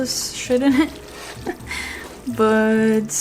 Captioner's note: laughs